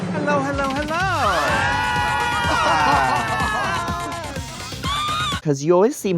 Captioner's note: drag queens screaming; RuPaul laughs